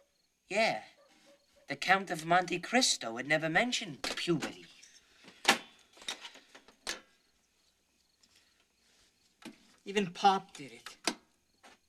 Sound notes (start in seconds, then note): none